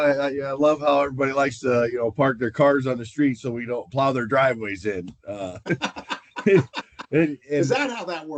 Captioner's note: laughter